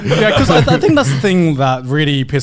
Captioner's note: laughing